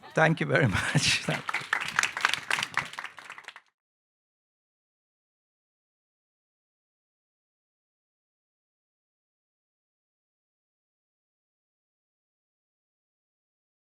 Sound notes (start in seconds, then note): 2.1 audience applauding